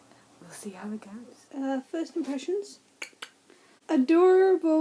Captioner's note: clicks tongue